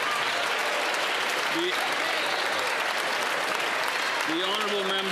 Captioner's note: some Applause